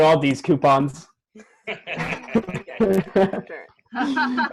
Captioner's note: laughter